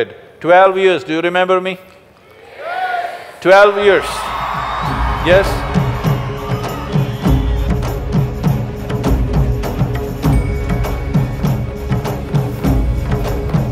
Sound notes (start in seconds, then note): 6.5 cheering